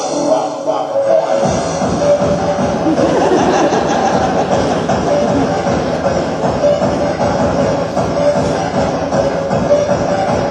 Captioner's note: bouncy music; audience laughs